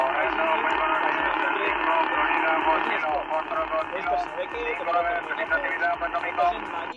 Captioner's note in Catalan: Aplaudiment